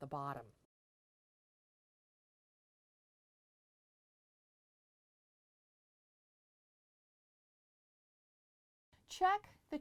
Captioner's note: no Sound Present